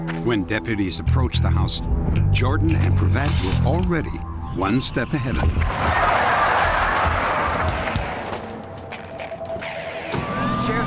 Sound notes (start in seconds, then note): 5.3 squealing tires; 10.0 sirens